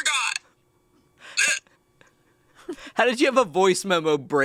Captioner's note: gags